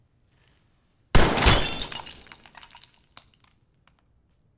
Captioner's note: gunshot